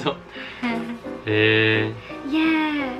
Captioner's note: surprised noise